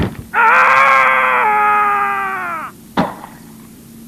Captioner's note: screams; thud